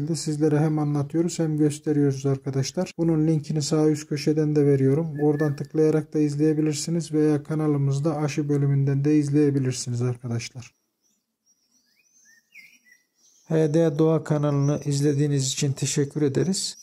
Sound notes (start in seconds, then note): 10.8 bird sounds